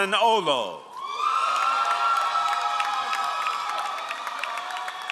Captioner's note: all applauding